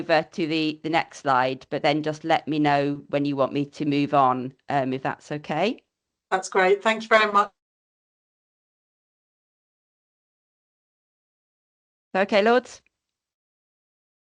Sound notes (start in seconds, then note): 7.1 sound drops out